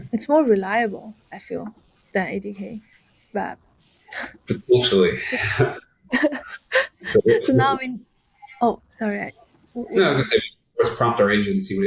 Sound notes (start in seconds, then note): 6.1 chuckles